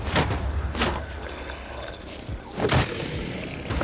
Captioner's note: growling